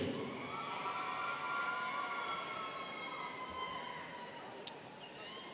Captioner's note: students cheering